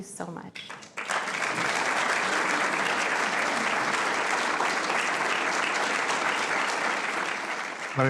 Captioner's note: applause